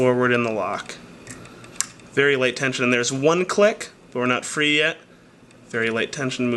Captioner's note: click